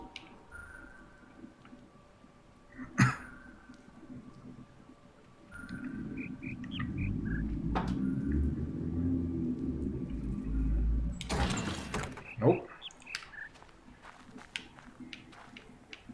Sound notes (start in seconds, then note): 2.7 coughs; 5.5 bird chirps ˧ ˧ ˥ ˧ ˩; 11.5 bird chirps ˧ ˧ ˥ ˧ ˩